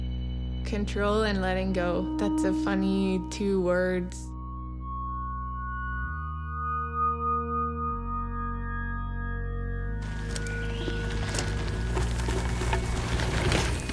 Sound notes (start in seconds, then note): 5.0 serene music; 10.0 leaves crunching